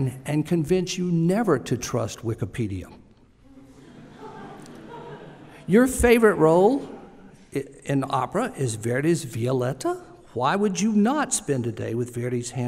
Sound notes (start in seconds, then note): 3.4 laughter